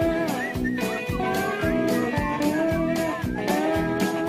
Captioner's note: whistling